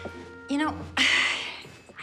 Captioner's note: sighs